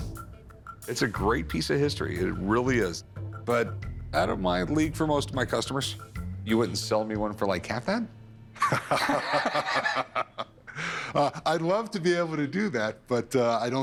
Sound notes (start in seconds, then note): 8.6 laughs